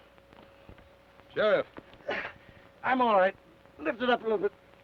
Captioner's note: grunts